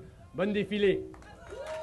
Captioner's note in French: Applaudissements